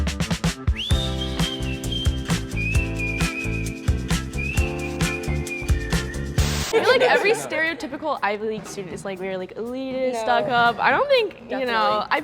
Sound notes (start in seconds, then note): 0.6 cheerful whistling; 0.9 bright music